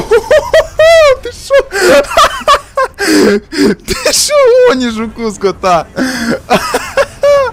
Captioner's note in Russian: смех